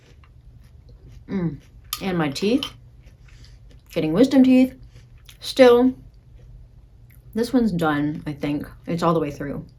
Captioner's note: chewing